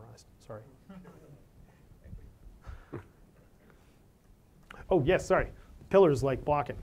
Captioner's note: laugh